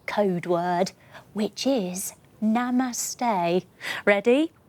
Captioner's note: whispering